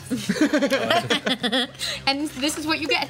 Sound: laughs

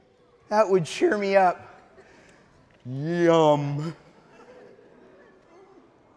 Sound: audience laughing

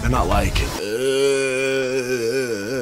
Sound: eeergh

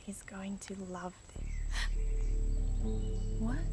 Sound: foreboding music; Eddy gasping

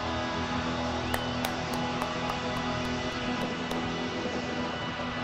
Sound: applauds

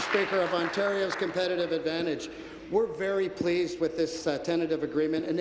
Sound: applause

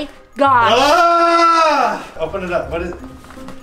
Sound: screams

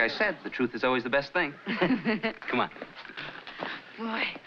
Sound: laughing

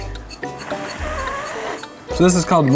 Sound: blowing

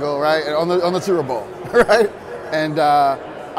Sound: laughing

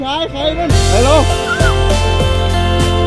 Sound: screams; uplifting music playing

